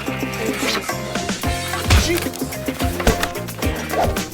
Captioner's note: smashing noises